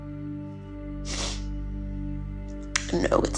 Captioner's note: Ally sniffling